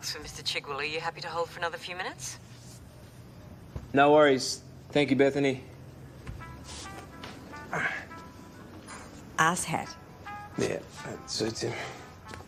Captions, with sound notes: Are you happy to hold for another few minutes? No worries. Thank you, Bethany. (HOLD MUSIC PLAYS) (GROANS) - 'Arse hat'? - Yeah. It suits him.